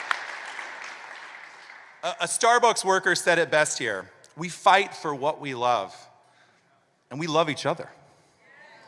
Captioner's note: applause